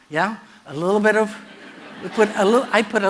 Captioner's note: laughter